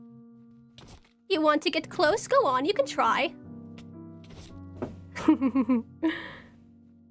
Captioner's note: chuckles